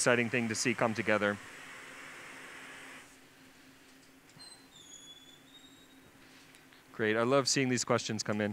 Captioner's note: sound of blowtorch; pause; door hinge creaking